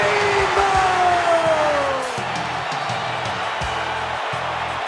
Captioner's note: crowd cheering